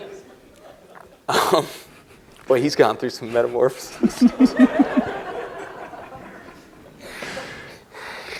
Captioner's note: laughter; laughs; laughter